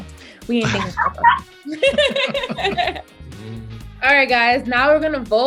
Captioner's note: laughs